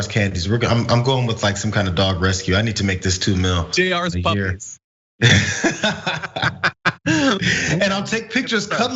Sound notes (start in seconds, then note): 5.2 laugh